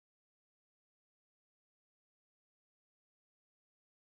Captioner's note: none